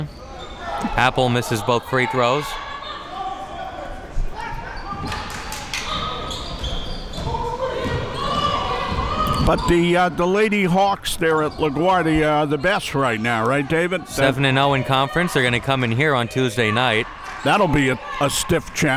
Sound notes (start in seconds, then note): 4.0 spectators shouting